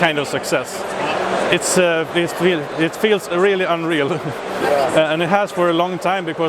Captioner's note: laughs